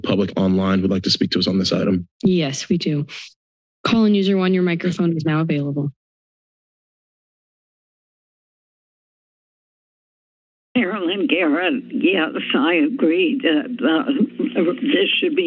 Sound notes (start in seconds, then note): 6.2 silence